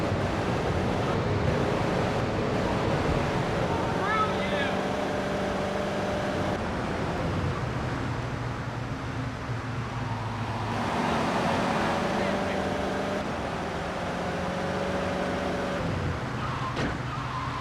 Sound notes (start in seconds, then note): 5.1 car engine roaring